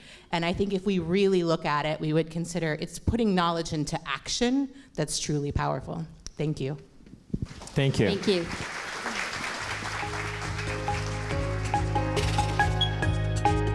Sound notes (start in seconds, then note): 7.5 audience applause; 9.8 gentle uplifting music